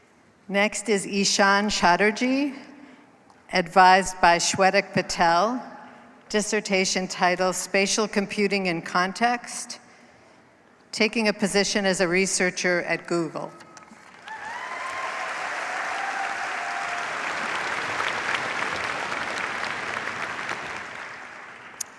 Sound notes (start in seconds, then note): 14.1 cheers, applause